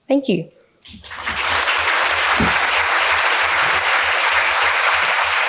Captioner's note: audience applauds